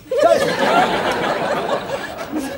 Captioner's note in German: kichert